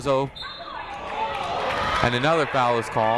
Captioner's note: whistle blows